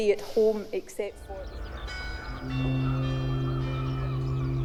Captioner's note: bell tolling